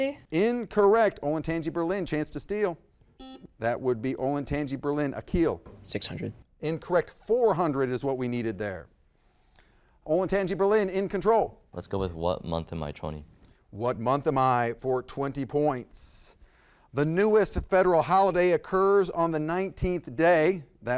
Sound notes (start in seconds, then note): 3.2 buzzer buzzes